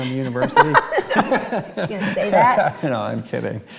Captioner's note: both laugh